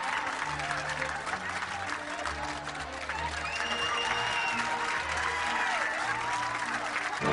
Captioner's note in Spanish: Aplausos